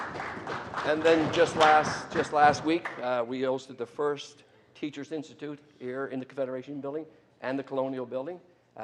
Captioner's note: applause